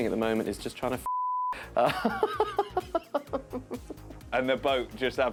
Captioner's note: laughs